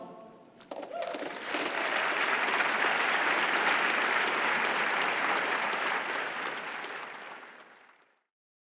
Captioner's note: applause